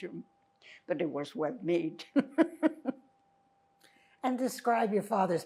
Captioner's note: laughing